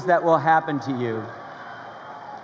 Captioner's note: crowd cheering